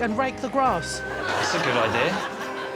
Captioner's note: blows whistle